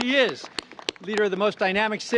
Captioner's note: applause